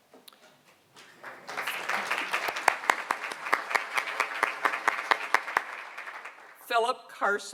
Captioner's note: applause